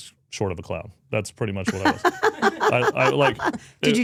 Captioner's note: speaker laughs